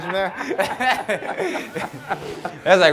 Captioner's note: both laughing